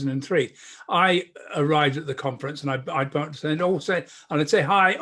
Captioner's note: murmurs